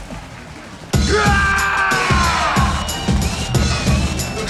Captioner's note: fighter screaming; pounding hip hop music